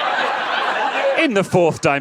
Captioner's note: audience laughs